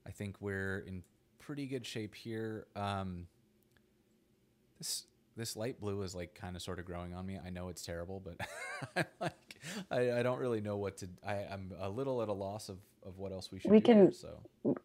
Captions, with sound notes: I think we're in pretty good shape here. This light blue is kinda sorta growing on me. I know it's terrible but (laughs) I'm a little at a loss of what else we should use so.